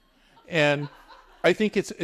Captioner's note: audience members laughing